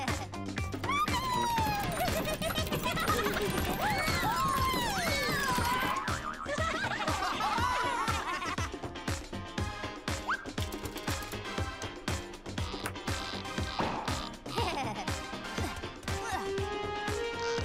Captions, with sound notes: - Robin! (giggling) - Wee! - Whoa! (laughing) (chuckling) (grunting)